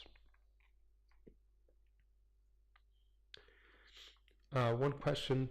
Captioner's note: pause